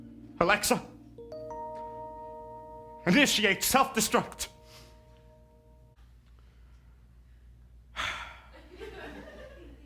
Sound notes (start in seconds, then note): 0.9 Amazon Alexa noise; 7.9 sighs